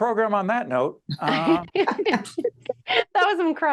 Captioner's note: laughing